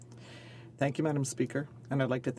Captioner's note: speaking French